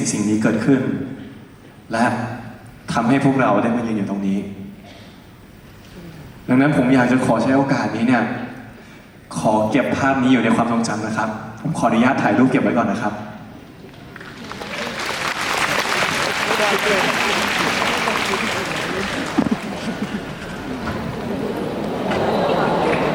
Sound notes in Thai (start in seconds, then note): 17.1 ปรบมือ